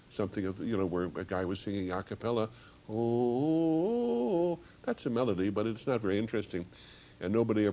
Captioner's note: hums